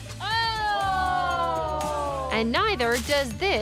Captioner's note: all exclaiming